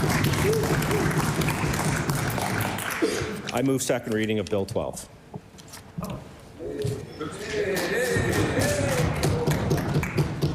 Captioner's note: cheering/Applause